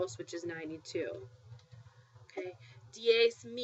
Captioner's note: spanish